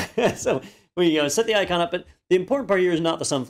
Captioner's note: laugh